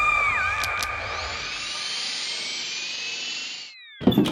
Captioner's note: screaming; whooshing